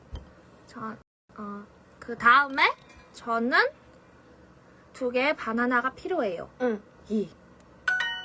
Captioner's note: repeats it in korean